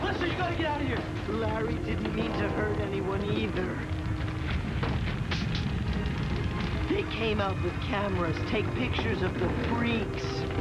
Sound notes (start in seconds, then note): 5.2 fire crackling